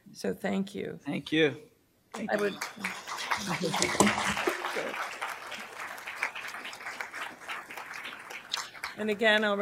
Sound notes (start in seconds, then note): 2.5 applause